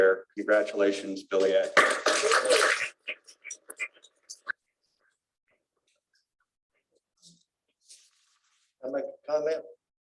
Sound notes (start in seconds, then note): 1.7 applause